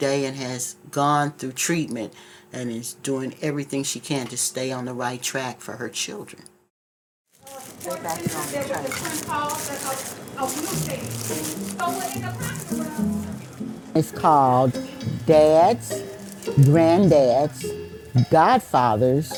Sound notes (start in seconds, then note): 7.5 people chattering; 11.9 upbeat music